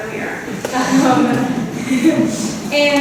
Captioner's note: laughs